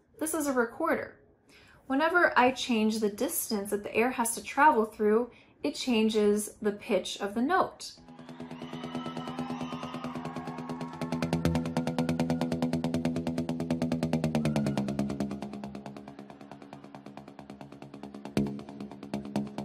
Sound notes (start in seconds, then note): 8.0 crowd cheering; 8.1 edgy drum music